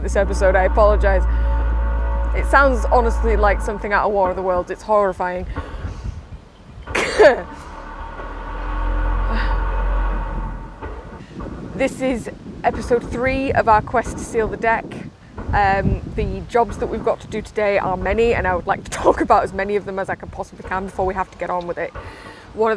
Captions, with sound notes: [Loud, Groaning, Metal Scraping Noise] I apologise. [Loud, Groaning, Metal Scraping Noise] It sounds, honestly, like something out of War of the Worlds, it's horrifying. [Loud, Groaning, Metal Scraping Noise Continues] [Loud Clanging Continues] This is episode 3 of our Quest to Seal the Deck. The jobs we've got to do today are many, and I would like to talk about as many of them as I can before I have to get on with it.